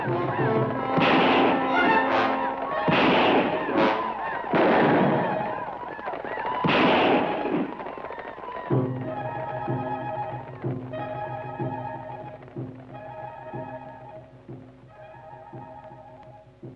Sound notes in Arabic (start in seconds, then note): 0.1 اطلاق النار بالبنادق; 12.8 موسيقى أوركسترالية مشوقة